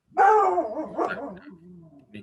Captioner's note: dog barking